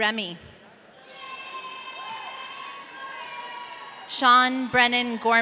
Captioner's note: audience cheering